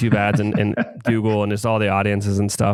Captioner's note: laughs